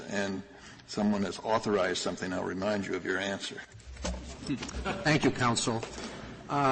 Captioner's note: laughter